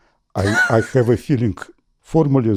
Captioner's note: laughs